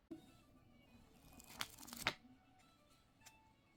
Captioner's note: pages rustling